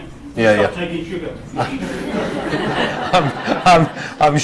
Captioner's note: audience laughs